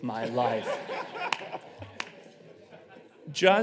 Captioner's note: audience laughing